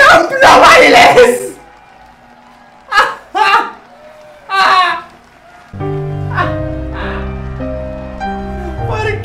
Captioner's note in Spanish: risas